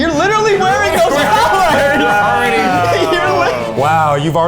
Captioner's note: all laugh